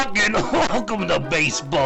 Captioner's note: coughing